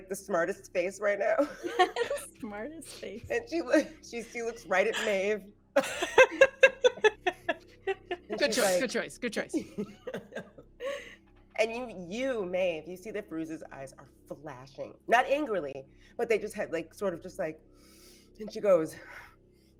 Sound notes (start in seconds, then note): 5.8 everyone laughs; 9.5 laughs